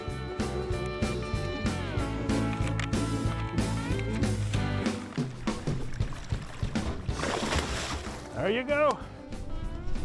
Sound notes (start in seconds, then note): 0.0 upbeat music; 7.3 water splashes